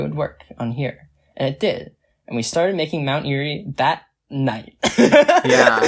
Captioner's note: laughs